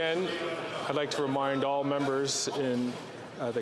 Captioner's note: chatter